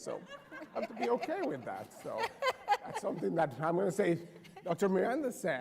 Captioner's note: laughter